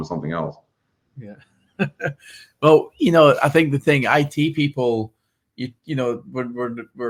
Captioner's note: laughs